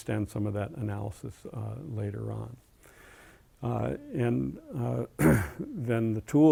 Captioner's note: cough